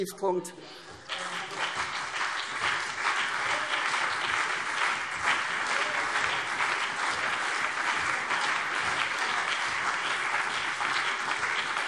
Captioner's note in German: Beifall CDU und BÜNDNIS 90/DIE GRÜNEN